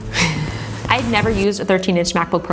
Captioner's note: laughing